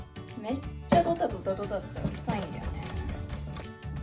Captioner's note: I can hear his toy rolling on the floor